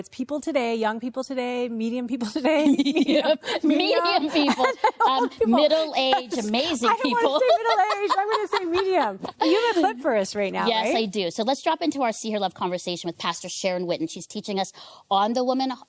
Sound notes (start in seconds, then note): 4.0 laughs; 8.7 laughter